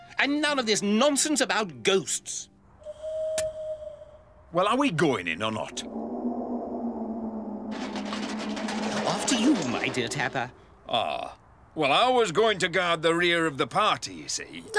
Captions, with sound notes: And none of this nonsense about ghosts! [Owl hoots] Well are we going in or not? [Wind moans...] After you, my dear Tapper. Ah, well I was going to guard the rear of the party, ya see.